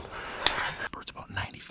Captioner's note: fists smack